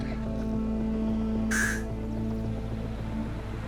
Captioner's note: inhales sharply